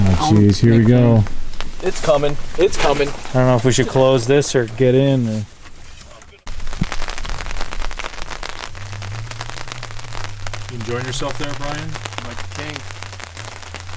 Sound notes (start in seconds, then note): 7.7 rain pattering